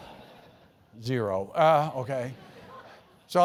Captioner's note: laugh